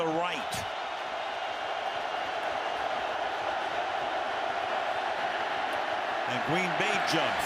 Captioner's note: crowd cheering